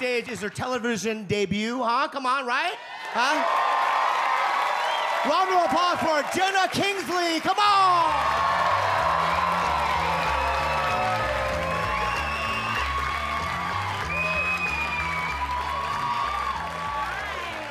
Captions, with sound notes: it's her television debut. Come on, right? (audience cheers) Round of applause for Jena Kingsley. Come on! (audience cheer and applaud) - Hi.